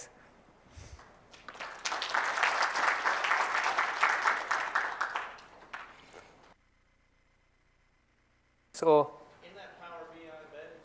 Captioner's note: applause